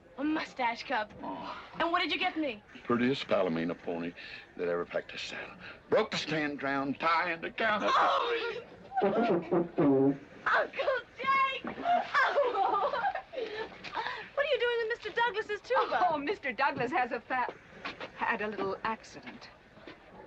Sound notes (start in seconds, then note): 9.0 horn blaring; 11.7 giggling